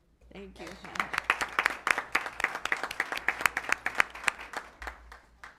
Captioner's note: applause